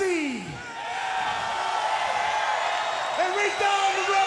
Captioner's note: crowd cheering